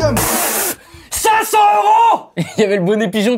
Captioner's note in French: Crache